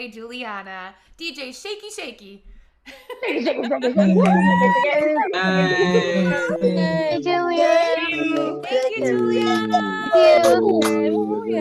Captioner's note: applause